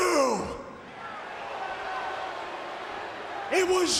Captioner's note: crowd cheering